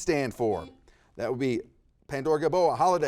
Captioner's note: buzzer dings